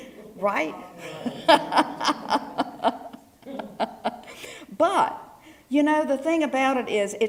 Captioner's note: laugh